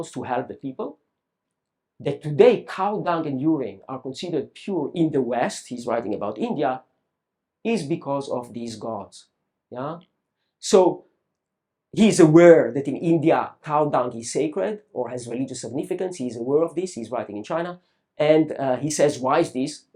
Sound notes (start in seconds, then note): none